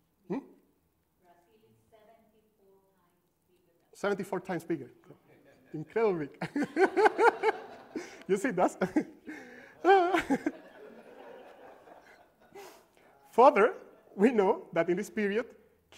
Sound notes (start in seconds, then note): 6.4 laughter